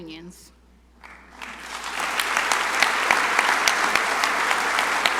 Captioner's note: crowd applauding